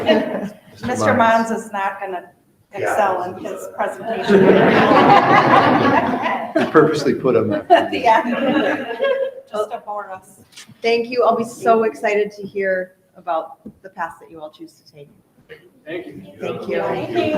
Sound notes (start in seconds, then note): 3.6 all laughing loudly